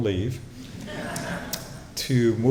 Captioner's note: laughter